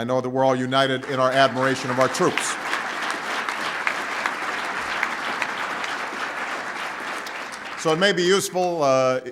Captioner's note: applause